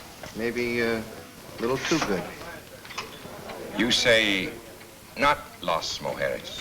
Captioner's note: none